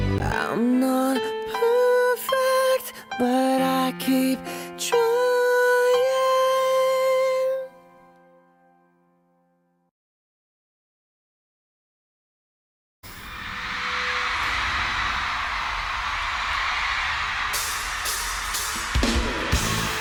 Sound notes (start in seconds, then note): 13.1 cheering; 17.5 cymbals